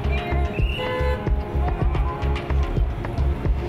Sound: horn beeps

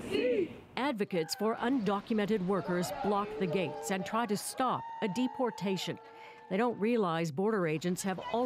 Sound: chanting

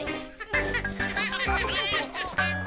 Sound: Bongalalas chuckling

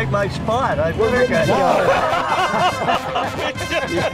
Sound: ushers laughing; orchestral music

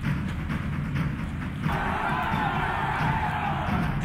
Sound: cheering

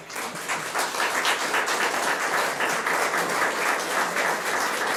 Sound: audience applauds

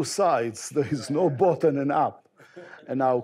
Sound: chuckles

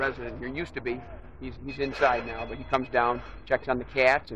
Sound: phone ringing

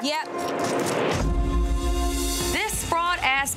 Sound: door slamming

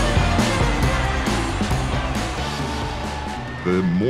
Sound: crowd cheering

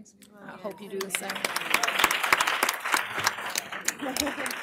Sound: applause

